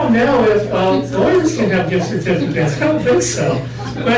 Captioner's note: laughter